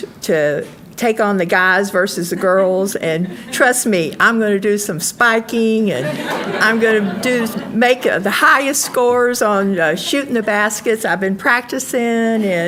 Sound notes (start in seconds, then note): 5.9 audience laughing